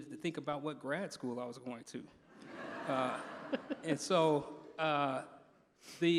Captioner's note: laughter